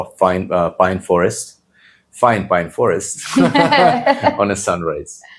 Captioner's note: laughs